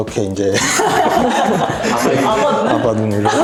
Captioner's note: laughs